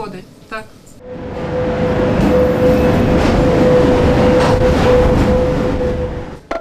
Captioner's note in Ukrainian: Їде поїзд